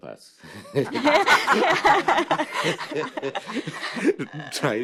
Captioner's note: laughter